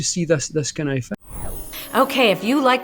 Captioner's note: whooshing; tinkling; ethereal music